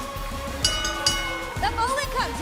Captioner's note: bell ringing